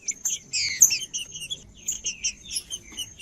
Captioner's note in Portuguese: trinca ferro cantando